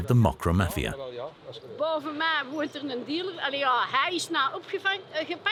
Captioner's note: Dutch spoken audio